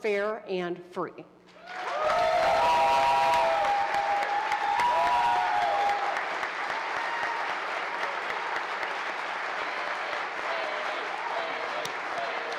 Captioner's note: applause